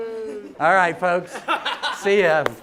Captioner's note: laughing